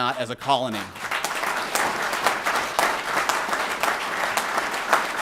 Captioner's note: applause